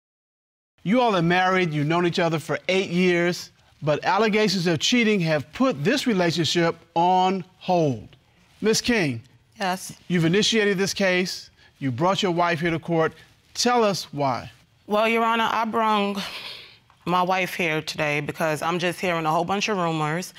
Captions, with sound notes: You all are married, you've known each other for eight years, but allegations of cheating have put this relationship on hold. Ms. King. Yes. You've initiated this case, you've brought your wife here to the court, tell us why. Well, Your Honor, I brung... (EXHALES) My wife here today because I'm just hearing a whole bunch of rumors,